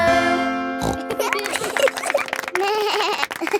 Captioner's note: snorts; laughing; bleats and laughs